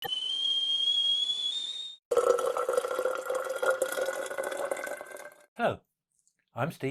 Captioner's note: sound of kettle boiling and water pouring